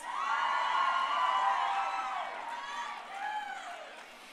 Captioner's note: crowd cheering